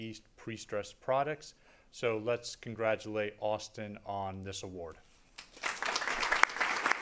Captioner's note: applause